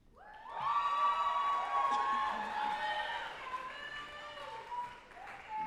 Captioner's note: group applauding and cheering